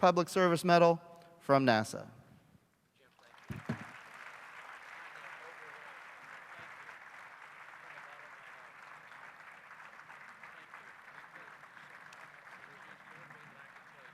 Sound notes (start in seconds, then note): 2.9 applause